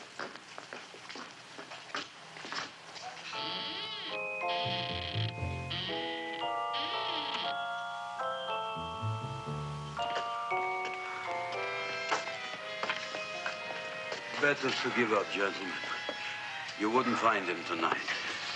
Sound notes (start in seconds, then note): 3.2 mysterious music; 4.6 creaking; 10.4 mysterious tense music